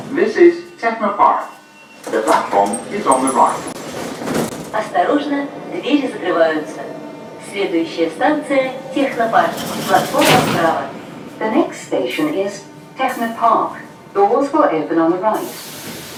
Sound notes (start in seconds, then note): 3.9 opening doors; 10.7 closing doors; 15.9 train leaves to the next station